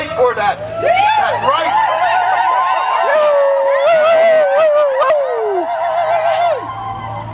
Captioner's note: cheering